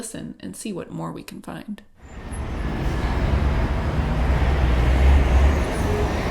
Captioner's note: city sounds